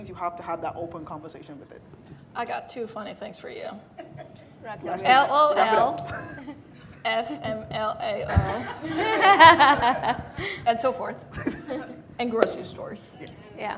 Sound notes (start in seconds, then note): 4.1 laughing; 8.2 attendees laughing